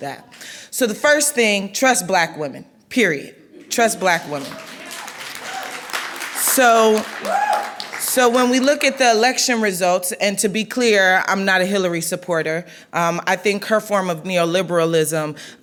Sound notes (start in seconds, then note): 4.2 clapping